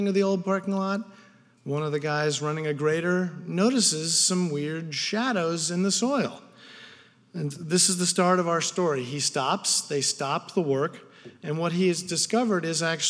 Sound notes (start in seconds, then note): none